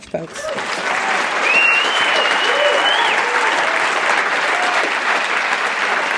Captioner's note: applause, cheering